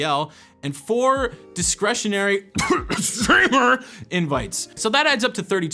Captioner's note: cough cough streamer cough